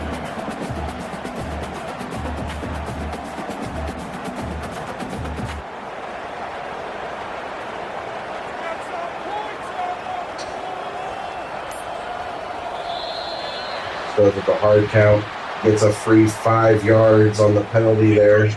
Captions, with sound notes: [Crowd Noises] [Crowd Noises] Still have a hard count, it's a free five yards on the penalty there.